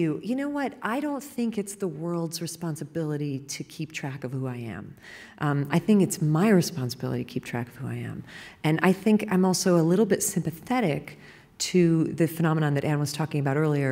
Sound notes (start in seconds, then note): none